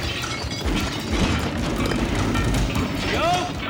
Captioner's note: clattering